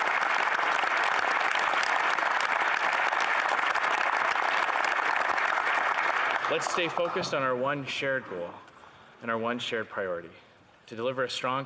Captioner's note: some Applause